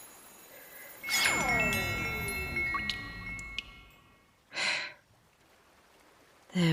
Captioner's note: water spell cast, magic sounds end